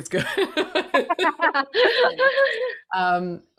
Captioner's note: speakers laughing